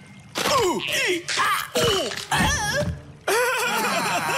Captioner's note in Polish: kosteczki robią chrup chrup